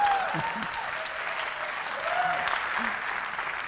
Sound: cheering

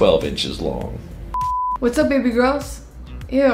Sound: screen beeps

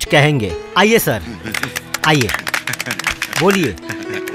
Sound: applause

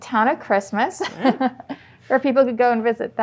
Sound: laughs

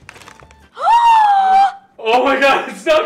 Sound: paper rustling; quiet upbeat music; gasps loudly

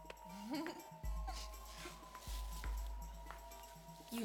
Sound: Holli giggles

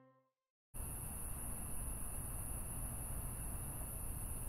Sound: insects chirping

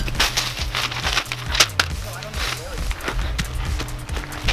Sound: paper rattling

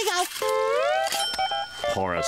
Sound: bell ringing

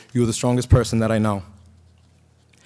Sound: none

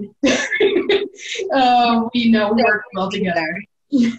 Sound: laughing loudly

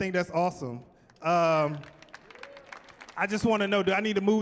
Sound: clapping

